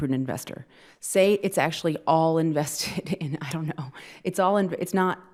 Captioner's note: laughing